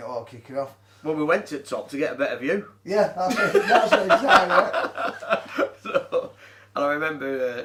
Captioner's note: laughs